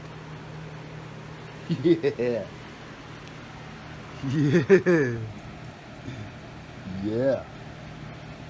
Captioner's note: Ella laughs and giggles